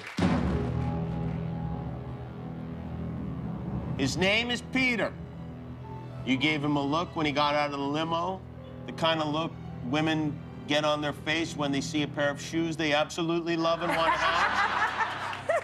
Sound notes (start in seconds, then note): 2.2 cheers and applause